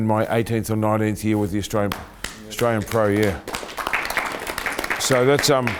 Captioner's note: clapping